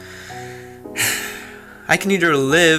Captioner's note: sighs